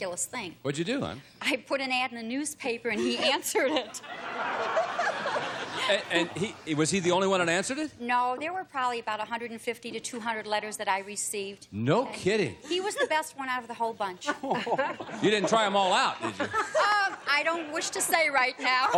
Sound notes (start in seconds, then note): 3.0 laughter